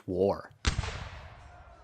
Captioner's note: gunshot